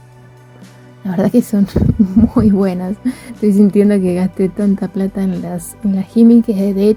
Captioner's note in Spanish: risas